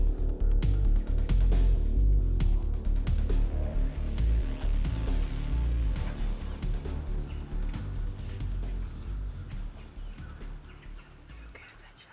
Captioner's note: whispering